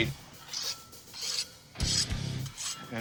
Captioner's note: metal scraping